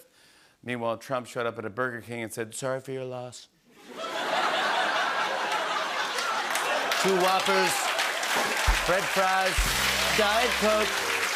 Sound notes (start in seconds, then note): 3.8 laughter and applause